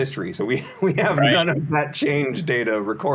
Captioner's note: laughs